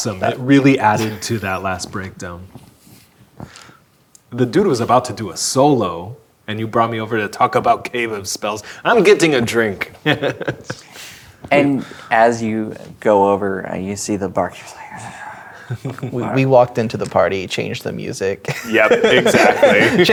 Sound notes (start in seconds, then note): 10.0 laughing; 18.5 laughing